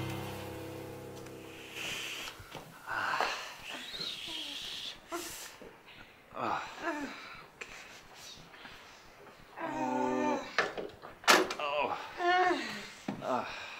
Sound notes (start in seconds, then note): 3.1 grunting